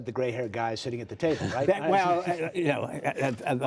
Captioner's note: laughter